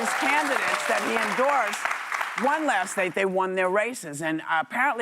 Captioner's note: cheers and applause